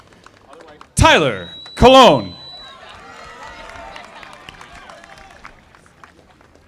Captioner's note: audience applauding